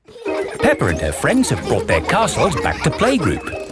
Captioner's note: children laughing